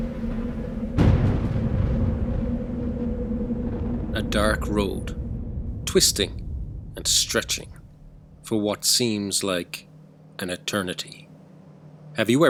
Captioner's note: thunder